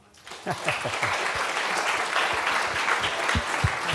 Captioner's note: applause